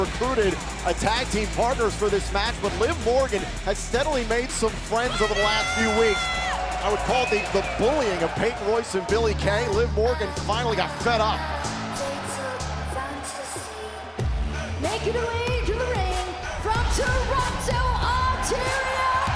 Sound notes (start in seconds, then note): 12.8 crowd cheering